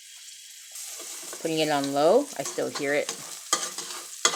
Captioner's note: garlic sizzling